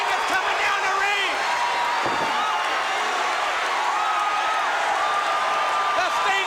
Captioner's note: crowd cheering